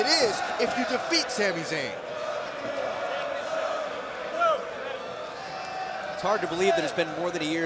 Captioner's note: crowd cheering